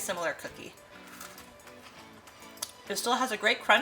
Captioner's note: cookie crunching